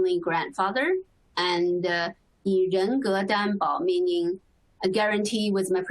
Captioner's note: speaking Chinese